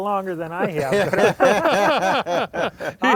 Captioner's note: all laughing